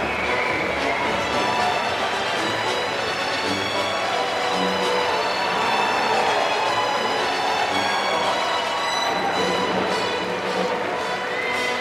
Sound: applause

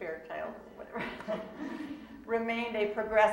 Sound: laughing

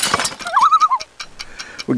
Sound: loon call

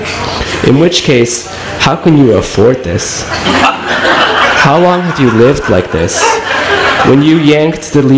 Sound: laughter

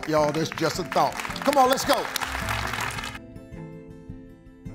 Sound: congregation applauds; gentle music

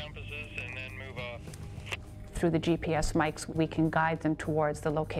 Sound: voiceover

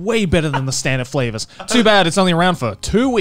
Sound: laughing

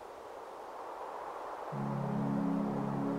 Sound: wind blowing

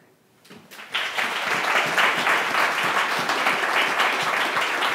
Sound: audience applause

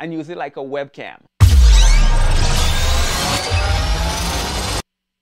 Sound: mechanical whirring

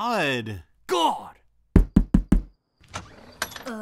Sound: knock on door

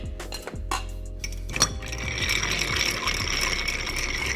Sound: stirring

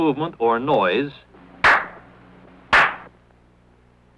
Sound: two loud hand claps

